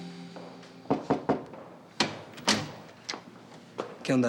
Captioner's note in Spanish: Toques en la puerta